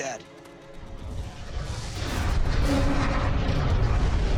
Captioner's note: booming